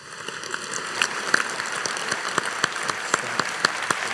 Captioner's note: audience applauding